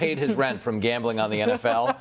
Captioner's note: laughter